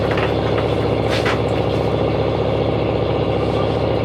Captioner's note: engine revving